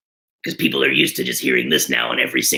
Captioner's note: in Beetlejuice voice